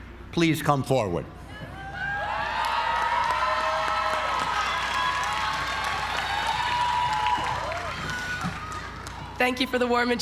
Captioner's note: applause